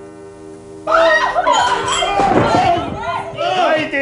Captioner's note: screams